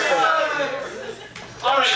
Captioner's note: audience laughing